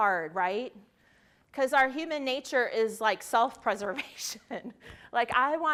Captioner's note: laughs